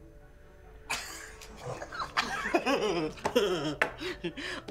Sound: bursts into laughter

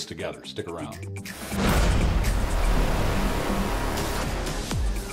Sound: fire exploding; upbeat music

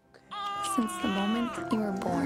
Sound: crying

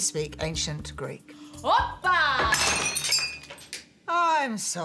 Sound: glass shattering

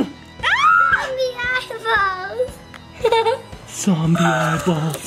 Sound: gasps; screaming; chuckles

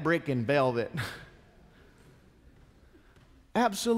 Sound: congregation chuckles

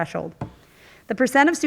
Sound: object clattering

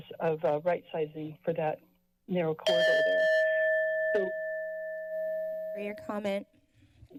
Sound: bell chimes

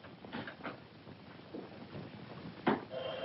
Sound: phone ringing

